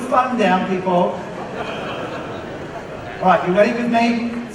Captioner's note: audience laughs